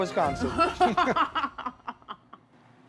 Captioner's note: laughter